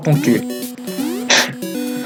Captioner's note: laugh